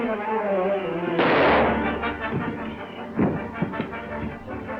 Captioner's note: dramatic orchestral music; gun fires